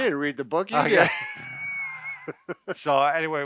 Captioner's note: laughs